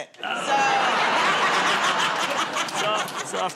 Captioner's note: laughter